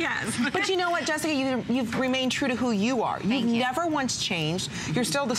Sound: laughter

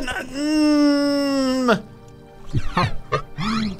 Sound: grunts; groans; laughs

